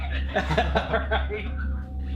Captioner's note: laughter